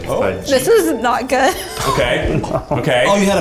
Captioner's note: laughs